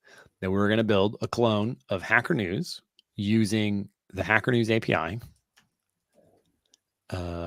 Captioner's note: none